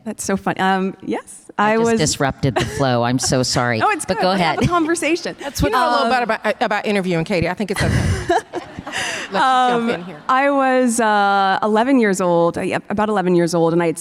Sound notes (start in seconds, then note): 7.8 participants and audience laughing